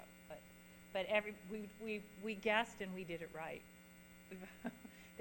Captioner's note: chuckles